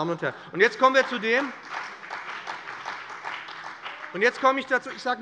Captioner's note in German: Beifall bei dem BÜNDNIS 90/DIE GRÜNEN und der CDU